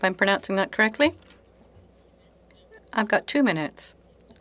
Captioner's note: speaking French